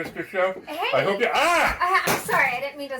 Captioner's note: Ed yelps